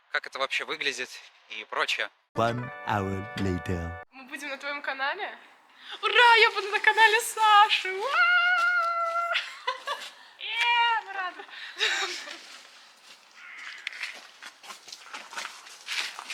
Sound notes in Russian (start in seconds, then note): 8.0 звуки радующейся